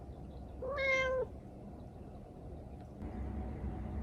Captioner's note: meow